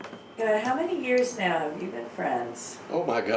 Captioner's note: voiceover